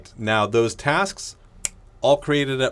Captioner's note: snaps fingers